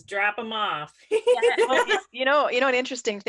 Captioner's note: laughs